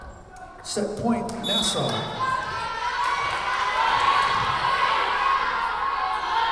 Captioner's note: whistle blowing